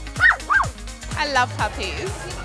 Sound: dog barking

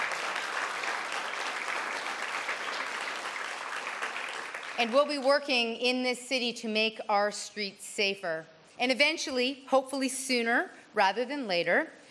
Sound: cheers and Applause

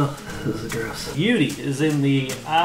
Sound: sounds of disgust

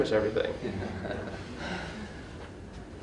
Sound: laughter

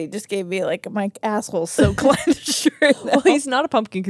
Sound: laugh

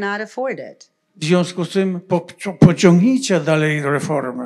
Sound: foreign language

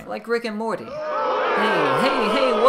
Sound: audience booing

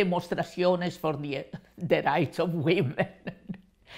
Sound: English

